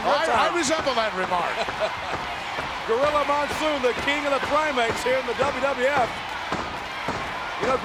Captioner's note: laugh